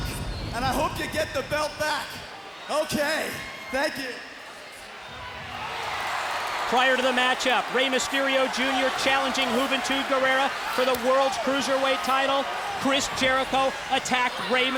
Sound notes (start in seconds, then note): 5.1 crowd cheering